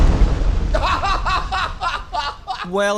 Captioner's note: laughter